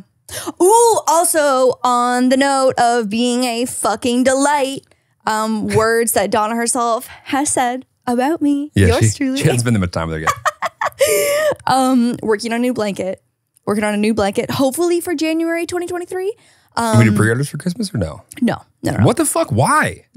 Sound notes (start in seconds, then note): 10.2 laughing